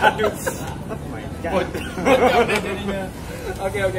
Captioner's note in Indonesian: laugh